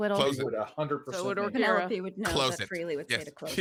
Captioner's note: murmurs